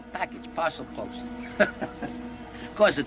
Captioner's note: chuckling